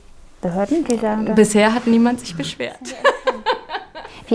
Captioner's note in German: Sie lacht